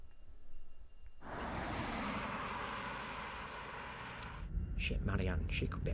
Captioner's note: traffic humming